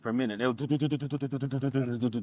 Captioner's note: imitates beat